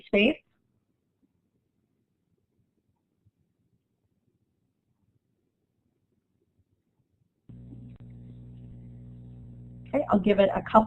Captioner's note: silence